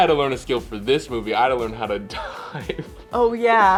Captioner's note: laughs